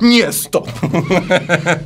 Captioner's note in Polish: śmiech